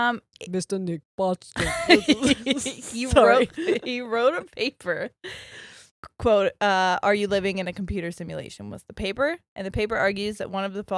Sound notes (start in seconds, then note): 1.6 both giggles